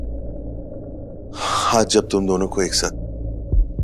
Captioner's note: Gasps